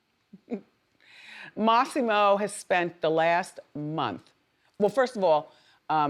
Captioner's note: laughs